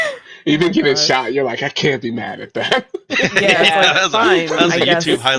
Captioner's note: laughs